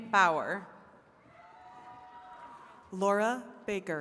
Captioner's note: attendees cheering